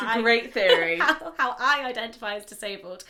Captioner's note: laughs